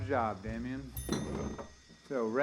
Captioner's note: oven ringing